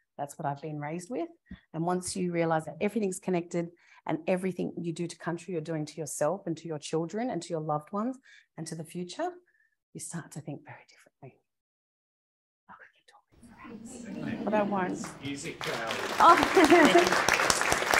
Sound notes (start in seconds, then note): 12.7 whispers; 13.6 audience applauds